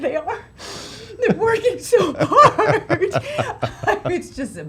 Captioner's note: sobbing